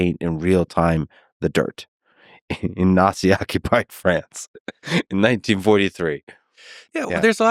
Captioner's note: laughs